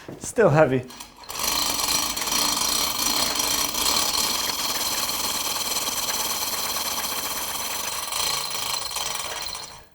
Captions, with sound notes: It's still heavy. (chains rattling)